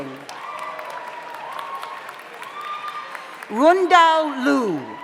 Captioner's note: audience applauds; audience cheers